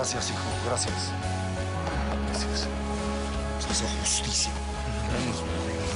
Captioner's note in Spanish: Palmadas